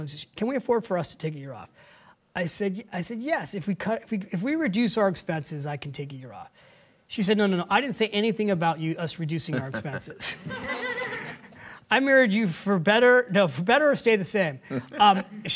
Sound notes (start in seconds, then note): 9.5 laugh; 10.4 audience laughing